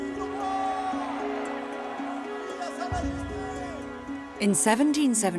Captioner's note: gentle music; people shouting in French